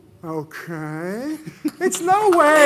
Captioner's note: applause